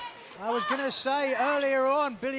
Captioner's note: crowd chatter